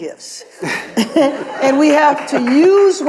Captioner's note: audience laughs